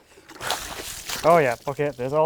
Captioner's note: wood thuds; water sloshing